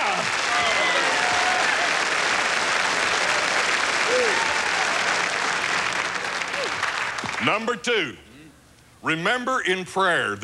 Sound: applause

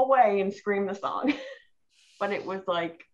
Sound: laughing

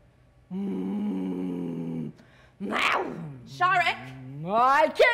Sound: Sharik loudly growling

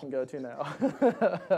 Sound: laughing

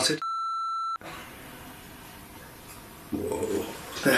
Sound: single long beeping sound

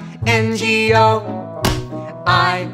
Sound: clap

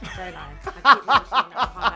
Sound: laughs

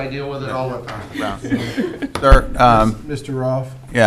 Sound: both laughing

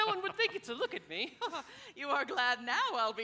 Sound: Ruth laughs

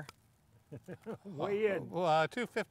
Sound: laughing

